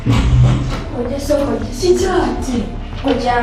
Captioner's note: panicking